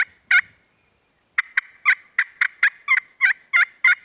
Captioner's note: turkey calling